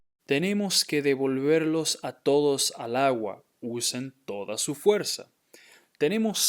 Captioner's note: speaking in Spanish